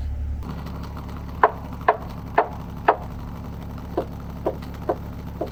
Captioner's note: hammer pounding